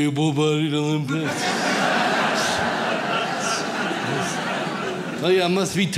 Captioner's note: audience laughs